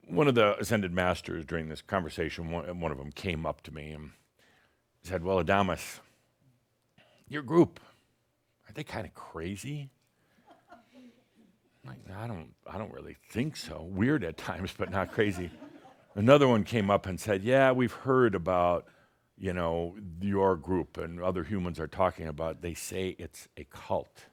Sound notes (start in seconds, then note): 10.4 someone giggles